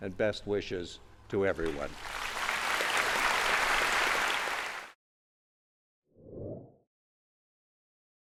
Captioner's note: applause, background noise